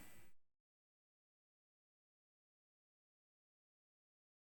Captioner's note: audio cuts out